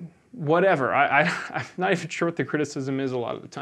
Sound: laughs

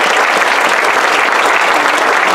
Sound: applause

